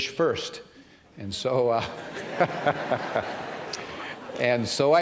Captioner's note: chuckles